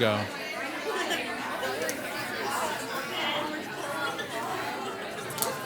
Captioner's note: participants conversing